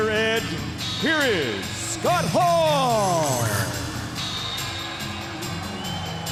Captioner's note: crowd cheering